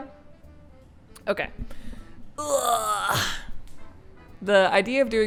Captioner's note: old man noises